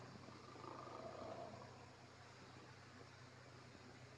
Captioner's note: snoring